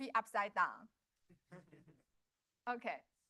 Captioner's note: laughter